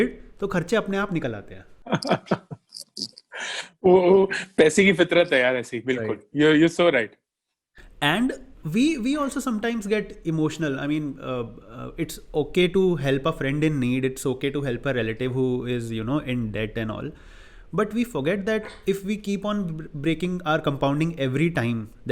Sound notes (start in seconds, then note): 1.8 laughing